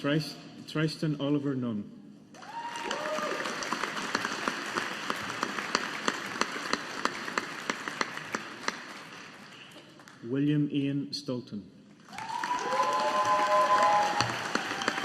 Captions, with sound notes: Tristan Oliver Nunn. (AUDIENCE APPLAUDING) William Ian Stolton. (AUDIENCE APPLAUDING)